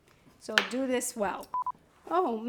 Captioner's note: electronic signal beeps